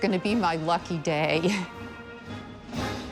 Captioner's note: chuckles